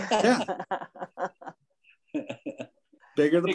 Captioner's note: people chuckling